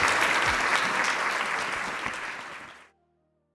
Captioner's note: applause